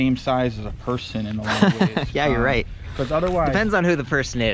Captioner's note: laughing